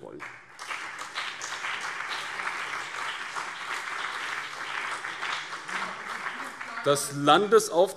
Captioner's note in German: Beifall BÜNDNIS 90/DIE GRÜNEN und CDU